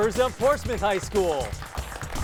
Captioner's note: applause